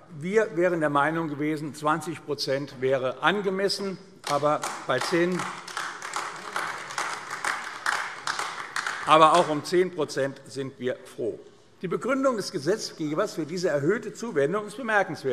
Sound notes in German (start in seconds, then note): 4.2 Beifall AfD